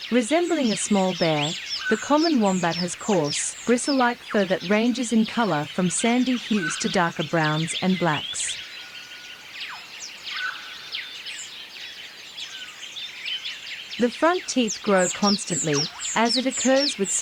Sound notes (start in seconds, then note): 8.6 birds chirping